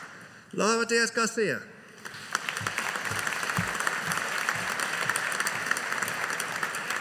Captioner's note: audience applauding